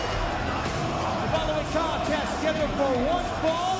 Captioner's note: bell ringing